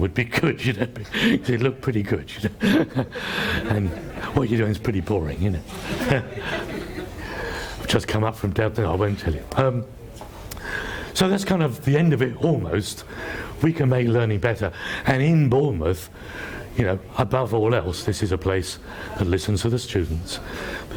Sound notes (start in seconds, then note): 5.6 laughs